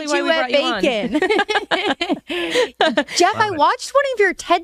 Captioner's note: hosts laugh